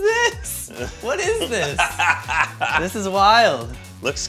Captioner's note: laughs